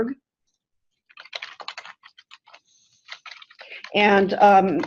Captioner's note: typing